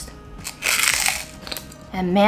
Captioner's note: chip crunching